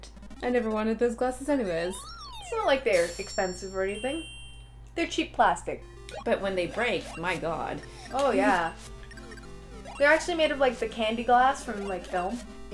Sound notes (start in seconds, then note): none